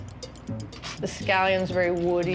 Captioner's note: none